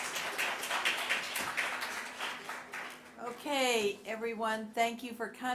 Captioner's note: applause